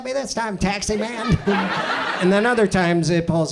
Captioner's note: audience laughs